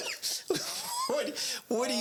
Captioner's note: laughing